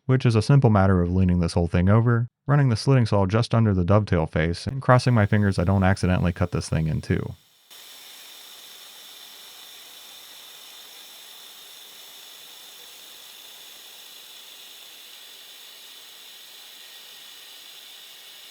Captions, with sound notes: which is a simple matter of leaning this whole thing over, running the slitting saw just under the dovetail face, and crossing my fingers I don't accidentally cut this thing in two. (machine whirring)